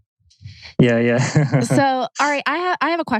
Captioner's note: laughs